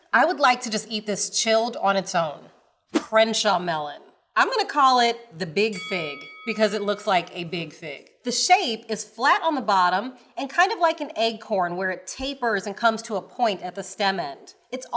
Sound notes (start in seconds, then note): 5.7 bell dings